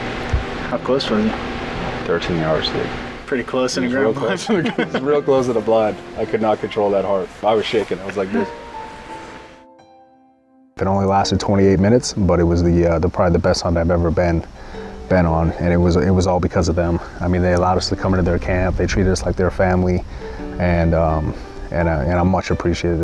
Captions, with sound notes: HOW CLOSE WERE YOU? 13 YARDS TO IT. PRETTY CLOSE. (LAUGHS) IT'S REAL CLOSE IN A BLIND. I COULD NOT CONTROL THAT HEART. I WAS SHAKING. I WAS LIKE THIS. IT ONLY LASTED 28 MINUTES, BUT IT WAS PROBABLY THE BEST HUNT I'VE EVER BEEN, BEEN ON AND IT WAS ALL BECAUSE OF THEM. I MEAN, THEY ALLOWED US TO COME INTO THEIR CAMP. THEY TREATED US LIKE THIER FAMILY. AND, UM, AND I'M MUCH APPRECIATIVE.